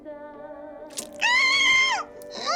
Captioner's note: flesh tearing; muffled screaming